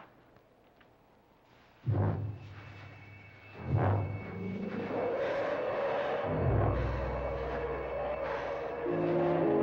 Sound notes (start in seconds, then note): 3.2 roaring